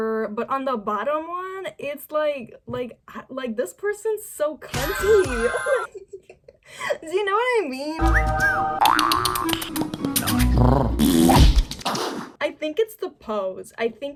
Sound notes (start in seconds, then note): 4.7 gigglin'; 8.0 cat call whistle; 8.7 bo yo yoing; 8.8 mouth pop; 10.1 kissy sounds; 10.2 human purring; 11.2 smack